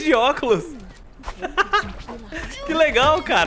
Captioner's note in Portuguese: risos